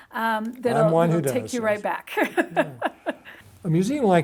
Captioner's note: laughs